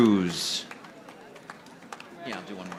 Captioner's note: audience applauding